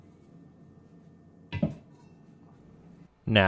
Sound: sharp thud

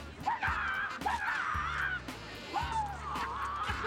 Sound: loud karate yells

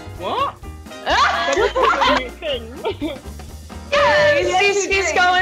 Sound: all laughing

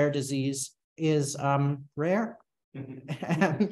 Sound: chuckles

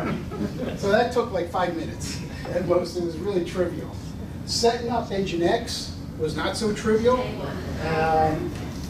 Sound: laughter

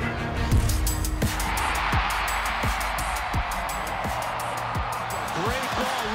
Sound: crowd cheers

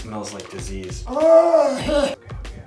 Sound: wheezes

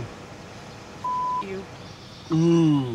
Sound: beep

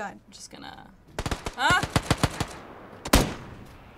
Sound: guns firing

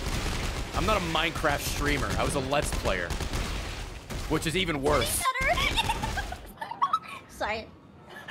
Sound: laughs

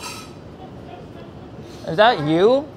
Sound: laughing

